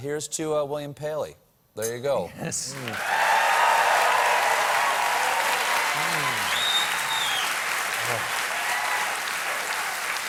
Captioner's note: cheers and applause